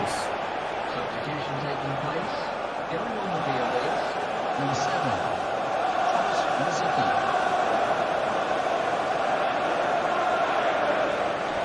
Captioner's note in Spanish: Hinchada grita